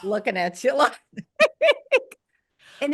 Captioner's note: laughs